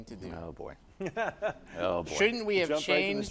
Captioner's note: laughs